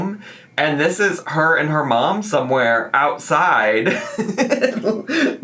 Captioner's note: laughs